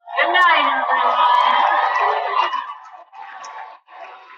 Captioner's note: cheering